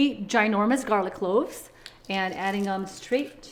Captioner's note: garlic squishing